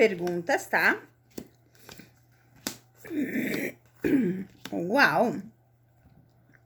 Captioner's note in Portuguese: limpando a garganta